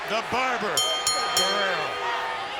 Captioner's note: bell rings